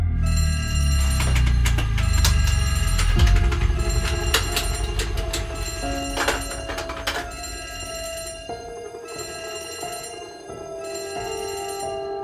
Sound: alarm sound

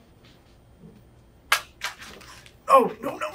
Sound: knife clatters

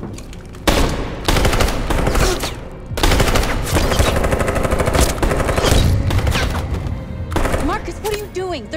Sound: gunfire

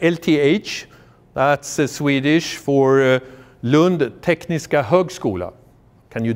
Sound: speaking foreign language

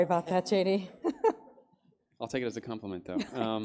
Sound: audience laughs

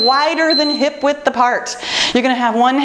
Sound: timer beeps

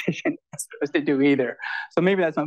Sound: chuckles

